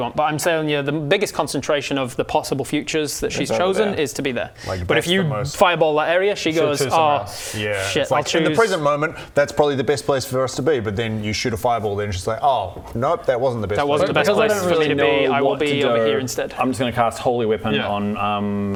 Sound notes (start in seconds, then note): none